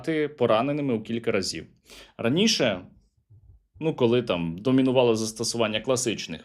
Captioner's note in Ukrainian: сопіння